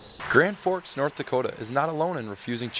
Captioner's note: voiceover